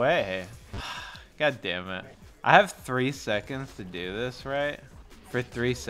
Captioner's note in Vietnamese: Thở dài